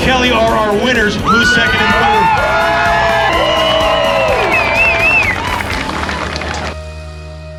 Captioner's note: applause